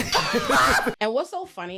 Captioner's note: laughing